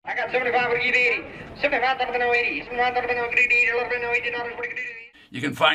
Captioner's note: man auction chanting